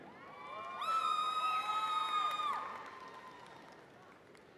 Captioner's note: audience cheering